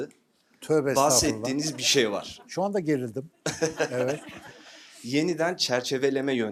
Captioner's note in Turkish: kahkaha